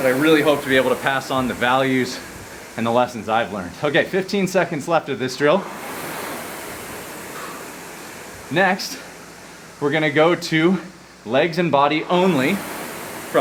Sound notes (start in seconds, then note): 6.1 rowing machine whirring